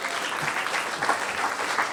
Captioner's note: applause